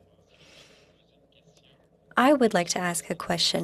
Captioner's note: speaking French